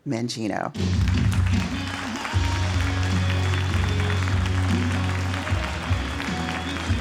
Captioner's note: upbeat music; audience clapping